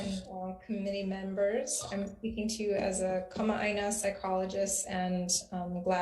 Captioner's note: speaking Hawaiian